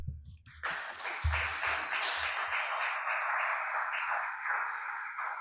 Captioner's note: audience applauding